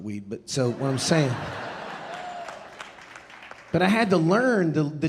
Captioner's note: audience laughing and applauding